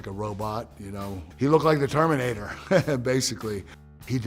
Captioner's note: laugh